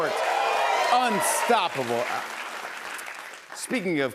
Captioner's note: cheers and applause